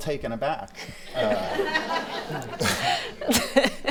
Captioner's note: laughing